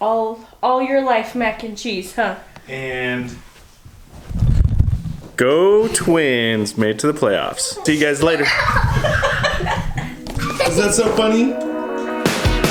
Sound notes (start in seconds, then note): 8.3 laughter